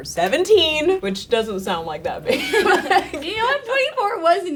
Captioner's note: girl laughs